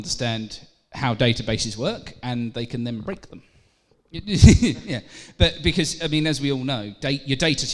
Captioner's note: laughter